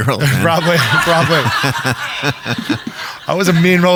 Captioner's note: audience laughing